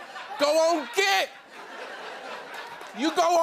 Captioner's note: laughter